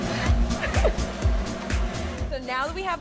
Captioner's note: laughing